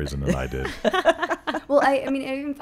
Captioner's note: laughing